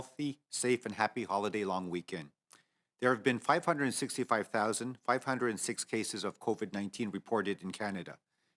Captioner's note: speaking French